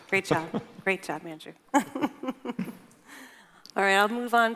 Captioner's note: laughs